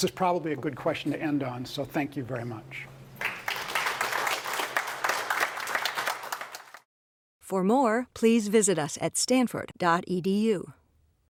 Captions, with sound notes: This is probably a good question to end on, so thank you very much. >> [APPLAUSE] >> For more, please visit us at stanford.edu